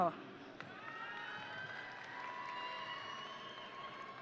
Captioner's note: audience cheering